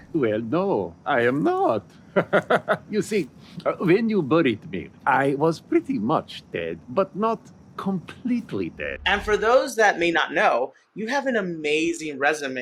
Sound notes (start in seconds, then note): 2.1 laughs